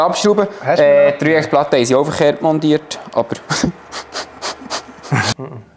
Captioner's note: laugh